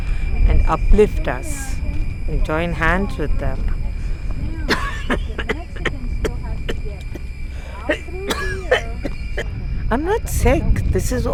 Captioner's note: coughs